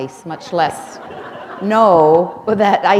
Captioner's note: chuckle